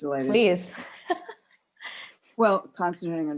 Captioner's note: laughter